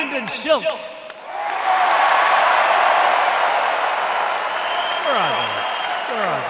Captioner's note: applause